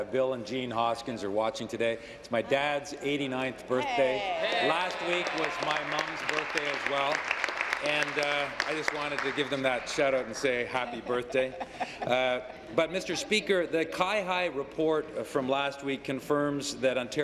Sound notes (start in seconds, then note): 8.2 applause